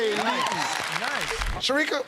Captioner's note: applause